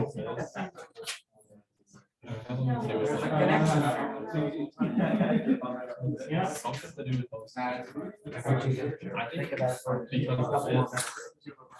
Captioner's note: background Discussion